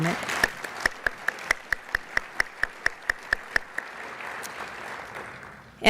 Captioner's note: clapping